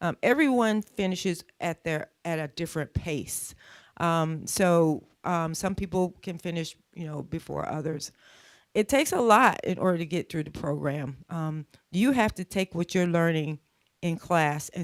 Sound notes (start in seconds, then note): none